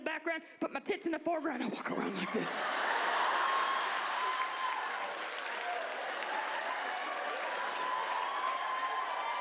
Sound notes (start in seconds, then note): 4.4 audience laughs and cheers